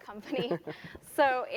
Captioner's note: laugh